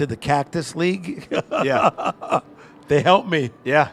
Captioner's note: laughs